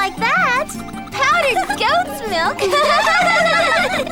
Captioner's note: laughing